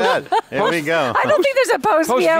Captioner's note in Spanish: risas